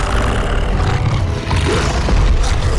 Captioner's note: growling